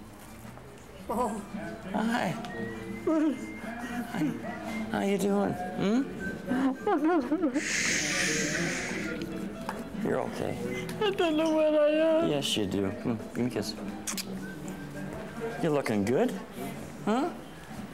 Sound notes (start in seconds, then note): 7.5 crying